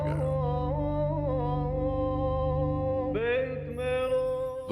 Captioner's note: chanting